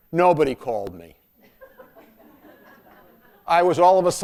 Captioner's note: laughter